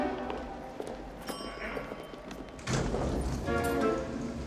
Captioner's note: elevator Bell Ringing